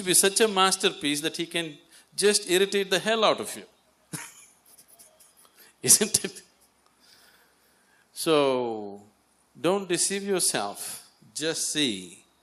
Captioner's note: laughs